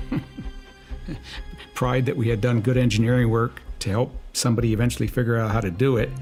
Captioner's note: chuckles